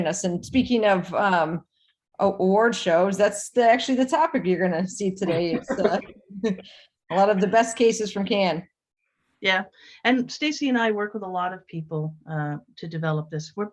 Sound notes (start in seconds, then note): 5.2 laughs